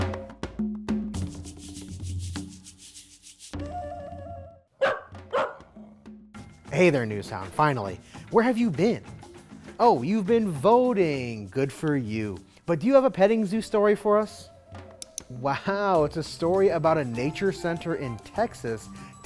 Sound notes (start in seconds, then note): 0.0 lively music; 4.8 dog barking